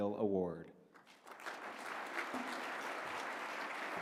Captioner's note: applause